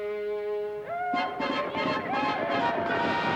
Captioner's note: all yelling